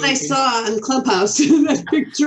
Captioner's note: chuckles